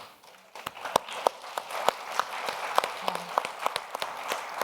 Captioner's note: audience applauding